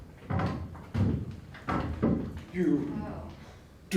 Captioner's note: footsteps